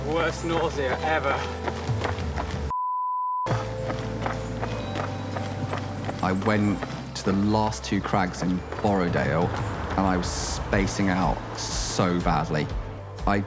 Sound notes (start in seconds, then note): 4.2 footsteps thud